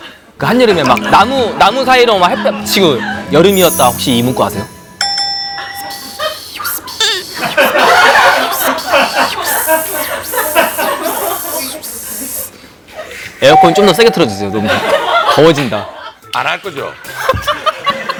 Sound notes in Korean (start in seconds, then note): 5.9 피식